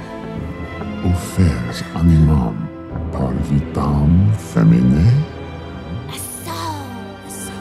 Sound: demon speaks in foreign language; ghostly whispering

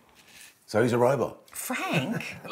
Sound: chuckles

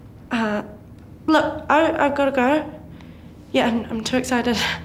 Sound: none

